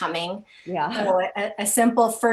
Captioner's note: laughing